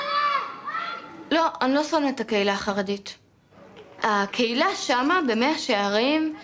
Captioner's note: speaking in foreign language